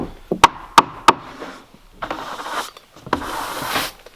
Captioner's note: hammer pounding